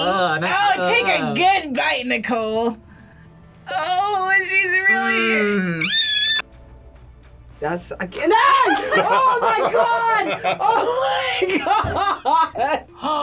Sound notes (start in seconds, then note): 4.9 screams